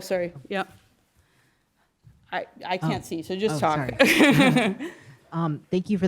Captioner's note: laugh